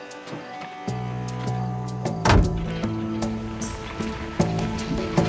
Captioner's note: truck door slams shut